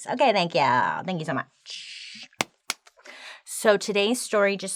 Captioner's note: hands slapping